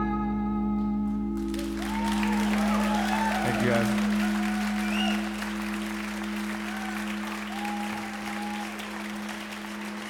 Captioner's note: applause